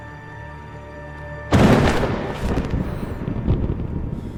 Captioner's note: thunder clap